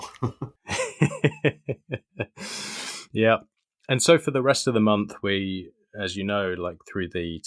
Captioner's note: both laughing